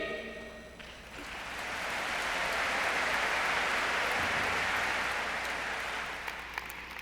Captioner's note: audience applauding